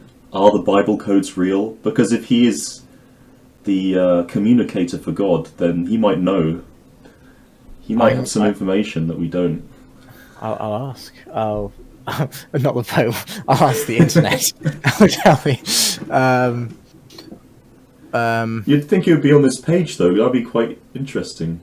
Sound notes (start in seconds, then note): 12.0 laughing